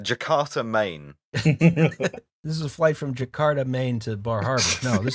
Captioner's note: laughter; laughter